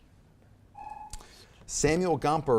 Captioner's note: timer buzzes